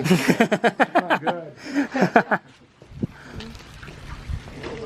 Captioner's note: men laughing